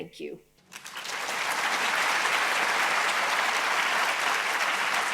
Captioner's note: audience applauding